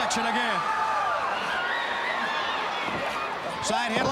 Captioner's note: crowd cheering